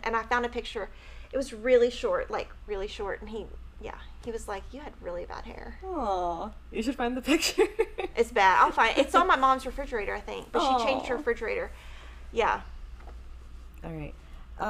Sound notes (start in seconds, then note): 7.4 chuckles